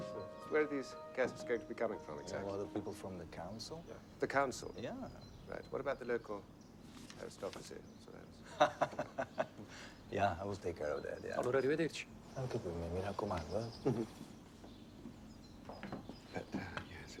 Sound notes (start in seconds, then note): 8.4 laughs; 9.4 Count Carlo in Italian; 12.5 in Italian